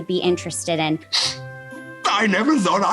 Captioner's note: sniffling